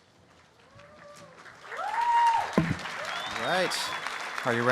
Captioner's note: applause and cheering